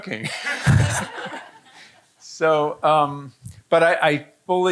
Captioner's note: audience laughing